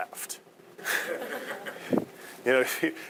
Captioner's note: audience laughing